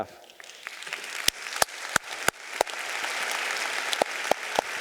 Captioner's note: audience applauding